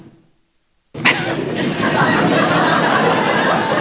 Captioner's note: laughter